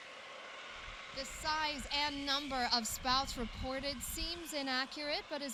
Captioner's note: over tv